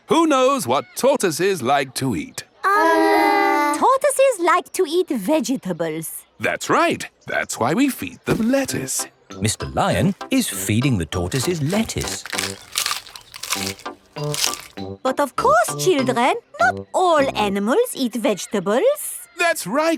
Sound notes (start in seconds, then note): 13.0 munching